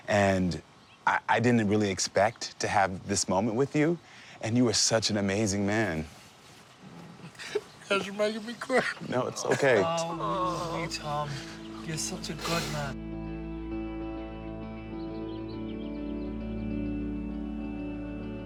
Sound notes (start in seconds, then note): 8.8 crying; 13.3 emotional guitar music